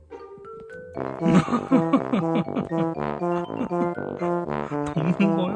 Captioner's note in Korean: 웃음